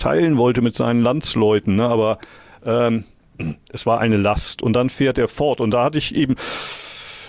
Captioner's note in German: räuspern